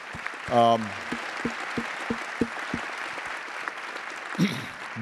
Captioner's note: attendees applauding